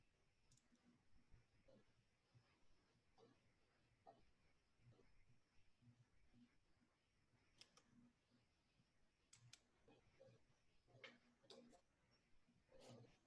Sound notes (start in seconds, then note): none